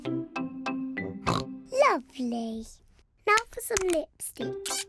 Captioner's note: oinks